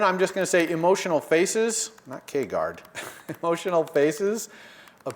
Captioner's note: laugh